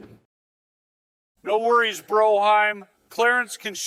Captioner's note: drunkenly